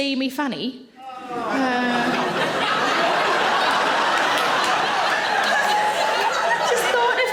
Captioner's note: man groans; audience laughing